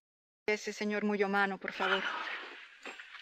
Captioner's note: in spanish